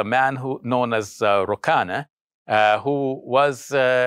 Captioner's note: speaks foreign language